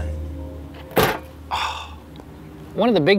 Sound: thuds

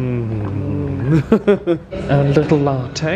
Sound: laughs

